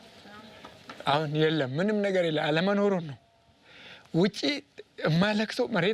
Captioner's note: speaking foreign language